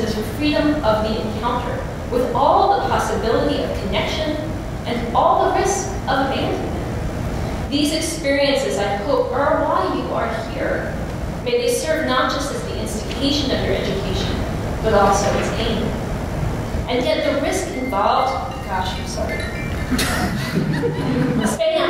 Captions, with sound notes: is freedom of the encounter with all the possibility of connection and all the risk of abandonment. These experiences, I hope, are why you are here. May they serve not just as the instigation of your education, but also its aim. And yet, the risk involved-- [PHONE RINGS] gosh, I'm sorry. [LAUGHTER] Spam.